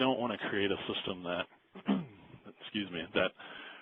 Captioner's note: clears throat